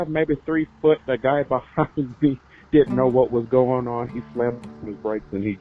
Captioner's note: chuckles